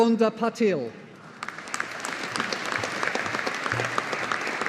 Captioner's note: audience applauding